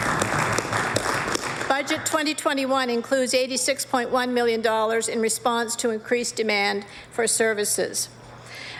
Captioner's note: applause